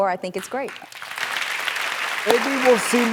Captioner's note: applause